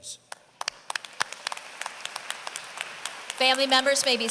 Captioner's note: applause